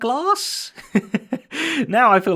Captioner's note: laughs